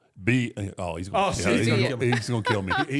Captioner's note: Michelle laughs